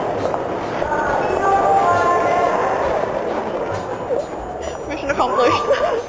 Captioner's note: distant yelling